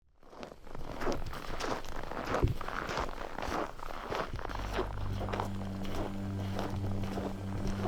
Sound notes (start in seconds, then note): 2.5 footsteps in the snow; 4.4 threatening ambient music